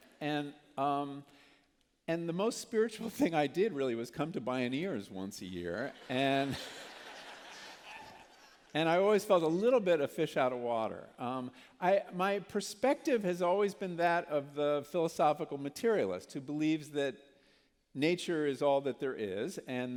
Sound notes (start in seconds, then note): 6.0 laughter